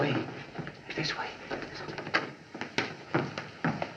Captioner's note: whispering